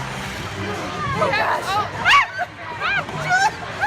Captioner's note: scream